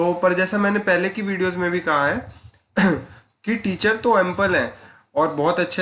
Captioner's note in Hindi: गला साफ़ करने की आवाज़